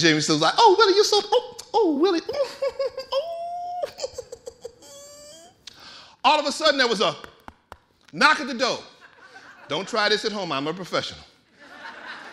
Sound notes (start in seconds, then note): 2.3 chuckling; 8.3 knocking